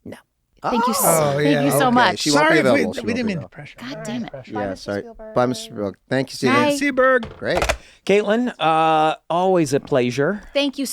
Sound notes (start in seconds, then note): 7.5 phone clicks